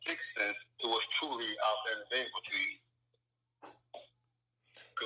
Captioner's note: mutters